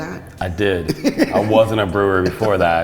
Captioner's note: laughs